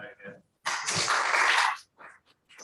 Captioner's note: applause